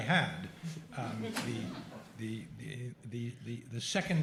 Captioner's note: laughter